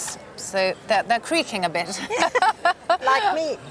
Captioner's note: laughs